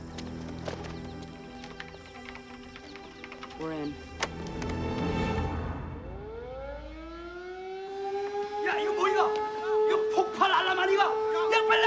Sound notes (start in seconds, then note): 5.8 alarm Blaring; 7.5 Korean